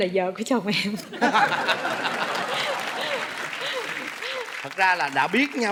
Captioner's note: laughing; applause